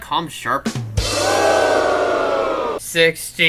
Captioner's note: rimshot; audience boos